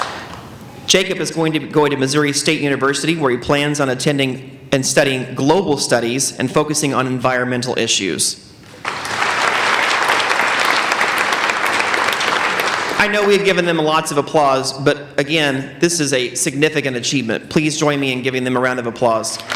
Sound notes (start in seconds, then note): 8.8 applauding; 19.3 applauding